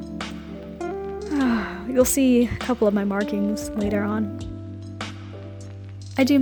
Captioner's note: sigh